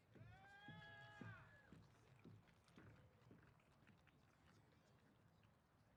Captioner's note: applause